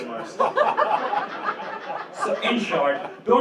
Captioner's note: laughter